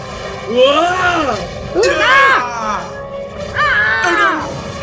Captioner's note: Hovernyan yells